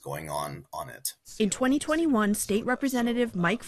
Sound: voice-over

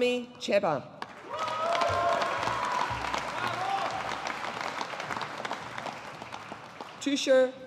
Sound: audience applauding

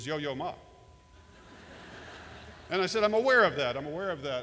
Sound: laughter

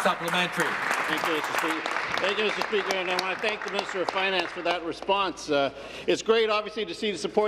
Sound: applause

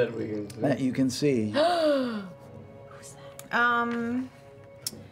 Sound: gasps, whispers

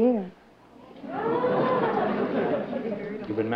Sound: exclamations

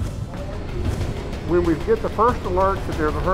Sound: voiceover

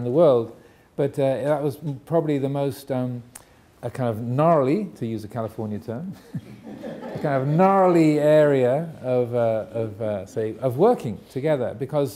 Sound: audience laughing

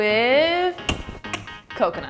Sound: clicking noise

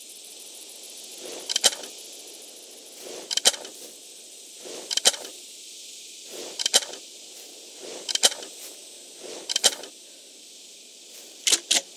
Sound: shotgun loading sounds

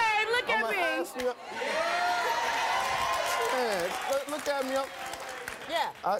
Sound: audience cheering and applause

